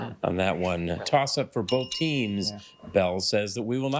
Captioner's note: bell dings